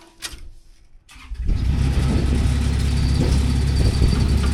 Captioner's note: engine starting